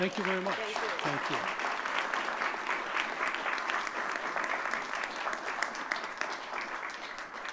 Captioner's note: audience clapping